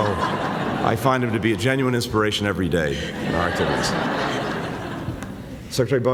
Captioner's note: laughter; laughter